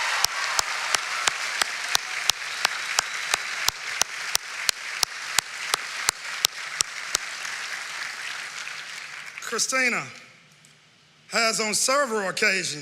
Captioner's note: cering and applause